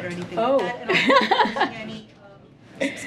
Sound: laughs

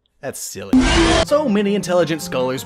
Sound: roar

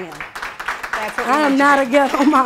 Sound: applause

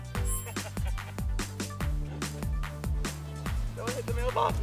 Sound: laughs

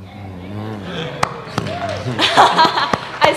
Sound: applause; laughter

